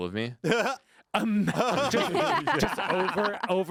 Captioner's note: group laughing